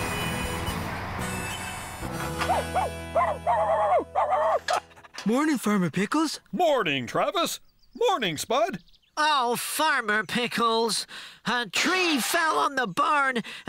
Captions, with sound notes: ( Barking ) MORNING, FARMER PICKLES. MORNING, TRAVIS! MORNING, SPUD! OH, FARMER PICKLES, A TREE FELL ON THE BARN